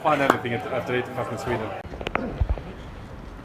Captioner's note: laughs